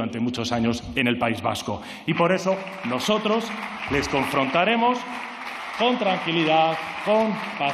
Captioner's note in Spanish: Aplausos